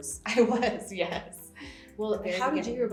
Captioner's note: laughs